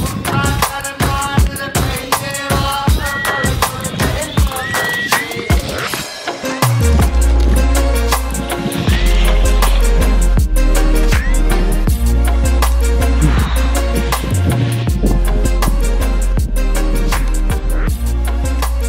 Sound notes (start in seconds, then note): 13.1 deep sigh